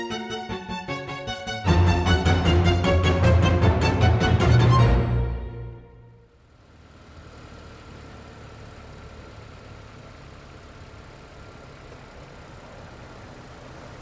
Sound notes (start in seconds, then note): 0.0 gentle dramatic music continues; 4.8 gentle dramatic music ends; 7.0 engine humming